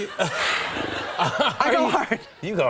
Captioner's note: laughter